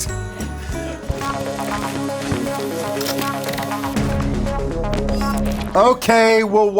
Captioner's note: upbeat music; keyboard clacking